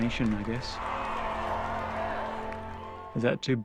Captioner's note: crowd cheering